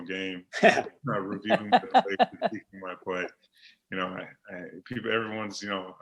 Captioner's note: laughing